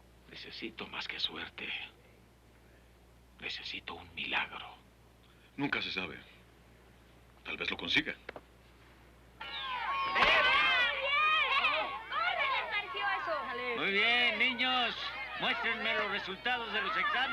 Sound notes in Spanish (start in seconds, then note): 9.4 bullicio